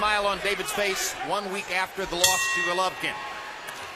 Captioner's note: bell rings